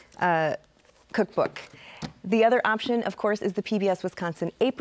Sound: none

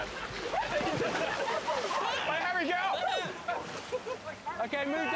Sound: laughter

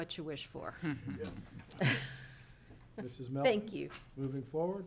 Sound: people chuckling

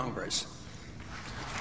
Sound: applause

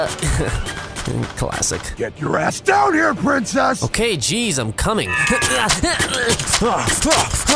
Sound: more battle grunts

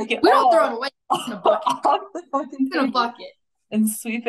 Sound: faintly speaking

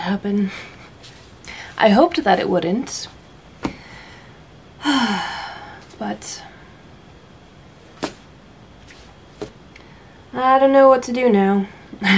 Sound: tired sigh

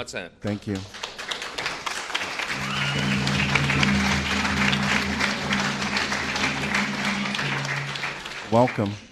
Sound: applause

